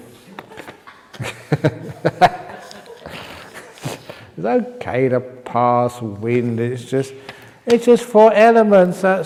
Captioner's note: laughter